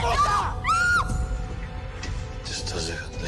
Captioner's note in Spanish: Grito